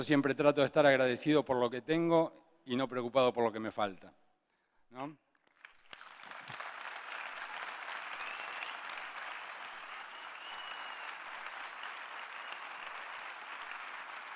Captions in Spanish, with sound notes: Yo siempre trato de estar agradecido por lo que tengo y no preocupado por lo que me falta, ¿no? (Aplausos)